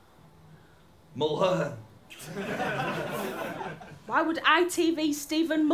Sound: laughter

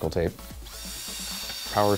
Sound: drill sound

